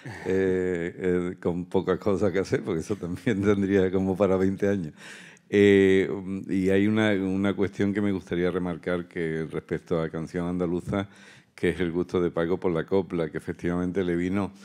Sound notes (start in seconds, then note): 0.0 laughs; 5.7 continues in Spanish